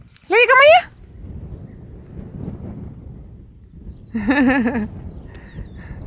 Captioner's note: in half Dutch half German